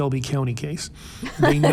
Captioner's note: laughter